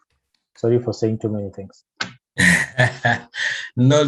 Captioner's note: laughs